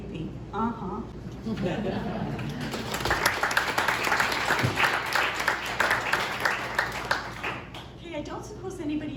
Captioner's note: laughter and applause